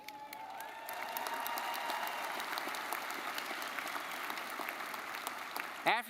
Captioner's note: crowd cheering and applauding